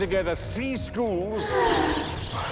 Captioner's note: girls sigh